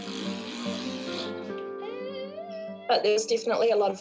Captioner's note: blows raspberry